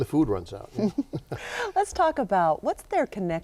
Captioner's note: laughing